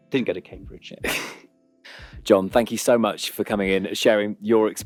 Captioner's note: chuckles